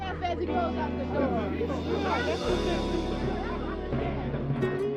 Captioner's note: people talking